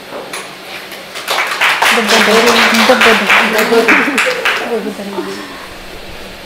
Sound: applause

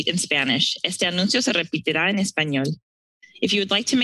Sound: speaking in Spanish

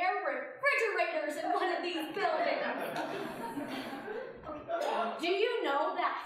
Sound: audience laughing

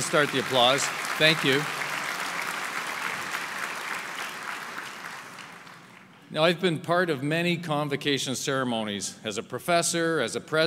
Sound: applause

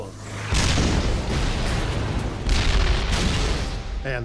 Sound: cannon shots exploding

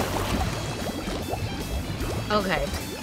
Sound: bubbling

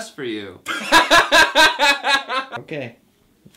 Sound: laughter

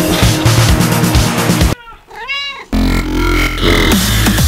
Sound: cat meowing; dramatic music

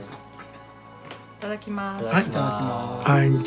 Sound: all speaking Japanese

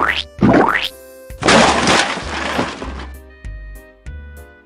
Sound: squelch; crash

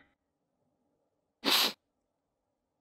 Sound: sniffs

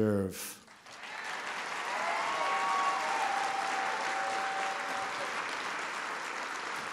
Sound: applause

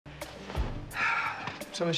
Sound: sighs

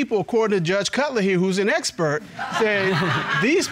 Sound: audience laughs

